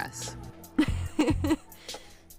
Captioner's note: spits; giggle